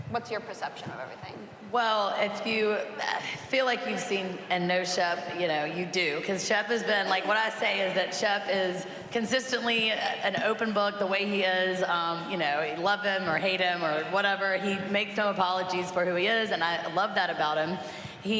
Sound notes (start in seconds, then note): none